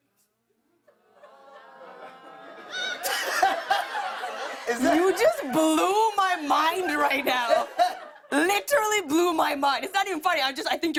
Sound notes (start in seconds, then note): 0.1 audience murmuring; 0.9 laughs